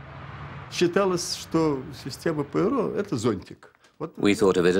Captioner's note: speaking Russian